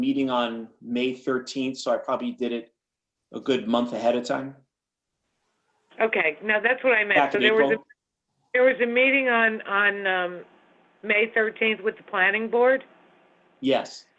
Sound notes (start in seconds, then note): 7.4 phone